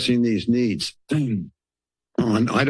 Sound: clearing throat

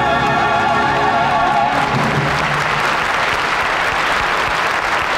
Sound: audience applauding

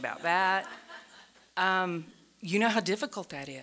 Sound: audience laughing

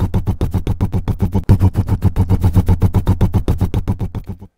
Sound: rumbling

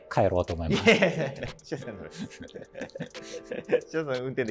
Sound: laughing

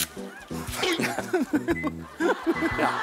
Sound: ripping

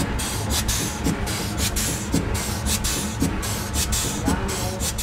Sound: chatter; machine noises

